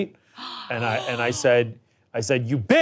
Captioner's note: people gasping